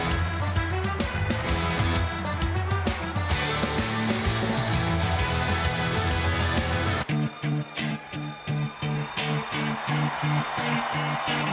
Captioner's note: cheers and applause